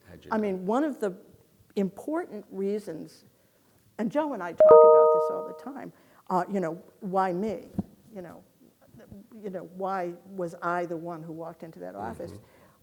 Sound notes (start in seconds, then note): 4.6 beep